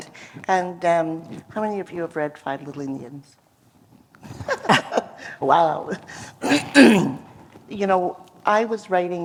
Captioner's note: laughter